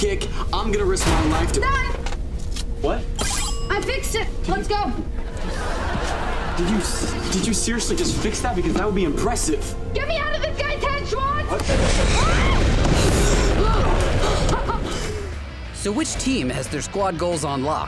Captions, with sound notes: - I'm going to risk my life to-- - Done. - What? - I fixed it. Let's go. Did you Did you seriously just fix that? Because that would be impressive. Get me out of this guy's head, Schwoz! [screaming] [laughing] So which team has their squad goals on lock?